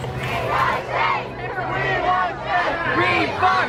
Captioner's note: chants